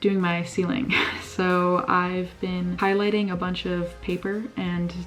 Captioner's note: laugh